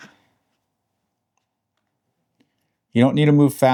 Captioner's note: silence